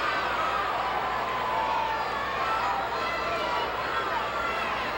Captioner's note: audience cheering